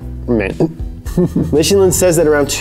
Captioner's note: chuckling